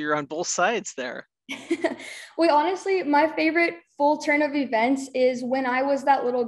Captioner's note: laughs